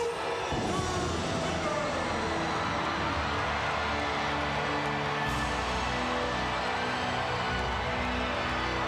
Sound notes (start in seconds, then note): 2.9 crowd cheering; 2.9 somber music continues